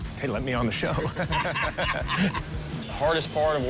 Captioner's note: laughter